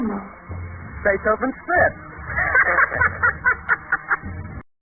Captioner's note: cackle